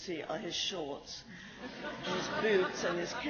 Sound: laughs

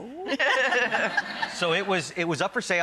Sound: laughter

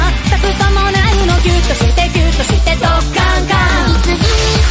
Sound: crash

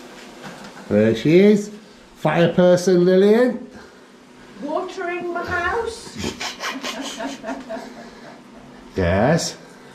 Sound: laughter

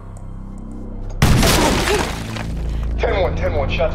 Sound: gunshot

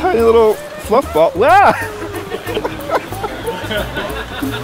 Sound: laughs

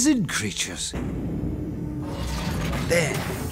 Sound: big hatch opens

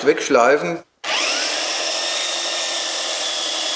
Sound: loud electrical whirring

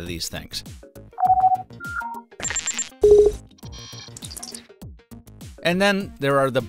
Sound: badges chirrup with different pitches

